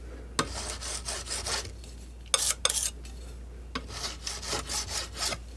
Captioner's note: metal scraping